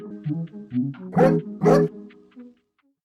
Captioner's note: woof Woof